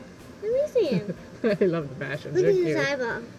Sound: laughing

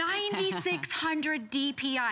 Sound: laughter

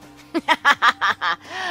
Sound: laughs

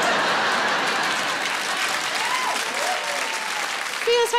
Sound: audience laughing; audience applauding

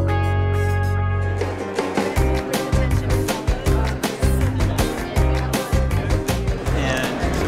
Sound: gentle music; bustling crowd

